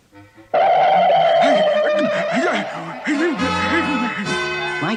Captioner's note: Adam West Gasps